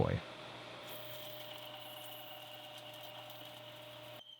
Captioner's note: mill whirring